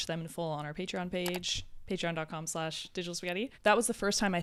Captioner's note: computer mouse clicks